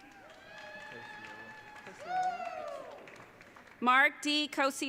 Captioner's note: audience cheering